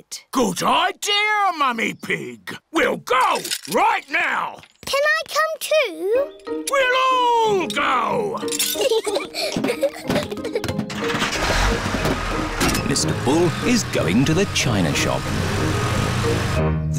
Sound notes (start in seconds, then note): 8.5 peppa and george giggle; 10.9 engine turns on